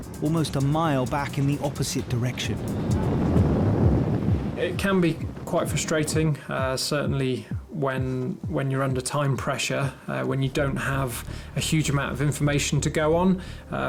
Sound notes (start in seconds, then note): 2.9 boat engine revving